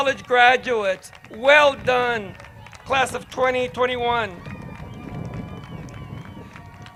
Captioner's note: crowd cheers